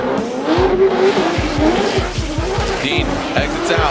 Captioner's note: car engines roar